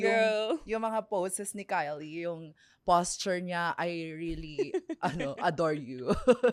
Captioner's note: laughs